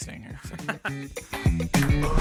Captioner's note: upbeat music; laughs